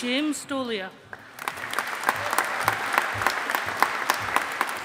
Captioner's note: audience applauding